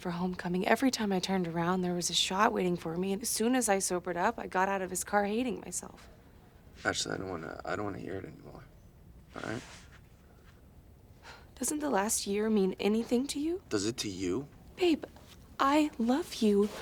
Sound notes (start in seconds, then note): 11.2 sighs